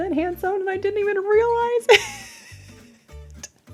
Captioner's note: chuckles